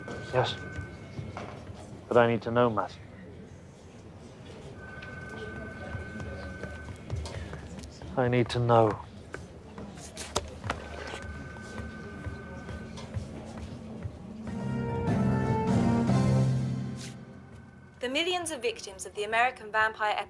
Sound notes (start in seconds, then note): 4.6 phone rings; 10.7 phone rings; 14.2 news jingle